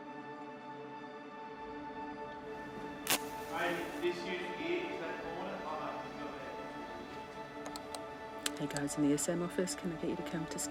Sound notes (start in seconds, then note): 2.8 match lighting; 4.4 backstage chatter